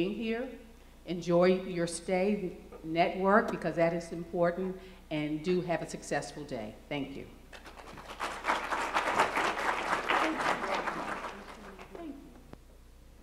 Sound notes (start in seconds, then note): 7.6 applause